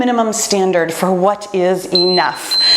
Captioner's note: timer beeps